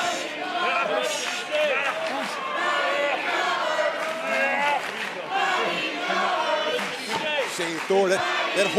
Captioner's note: fans chanting